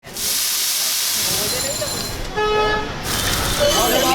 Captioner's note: water sizzling; customers chattering